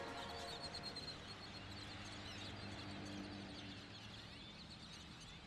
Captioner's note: seagulls